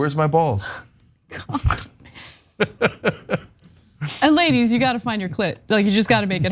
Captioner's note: laugh